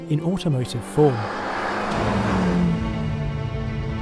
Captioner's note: car engine revving; classical music